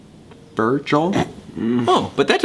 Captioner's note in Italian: soffoca una risata; Virgil mugola ansiosamente